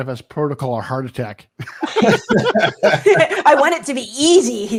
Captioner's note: all laugh